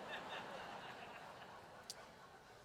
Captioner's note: laughter